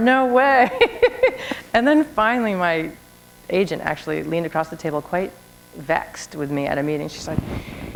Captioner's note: laughter